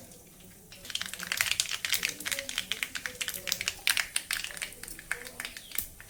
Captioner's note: mustard Seeds Splutter